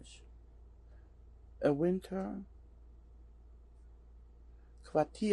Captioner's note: pauses for 3 seconds